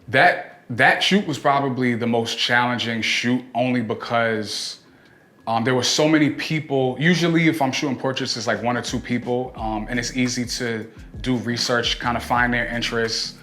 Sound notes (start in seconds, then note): none